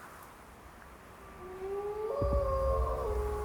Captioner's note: wolf howling